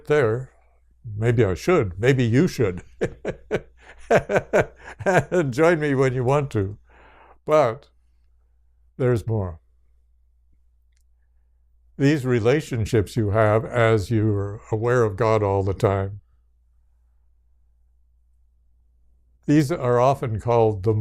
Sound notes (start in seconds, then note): 8.4 laughs